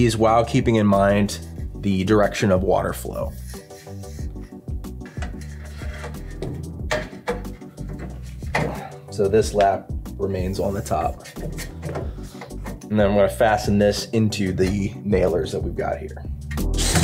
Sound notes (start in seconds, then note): 3.7 relaxed music; 7.0 metal clanks; 7.0 relaxed music; 16.8 drill hums and thuds; 16.8 relaxed music